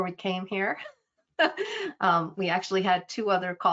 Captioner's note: laughing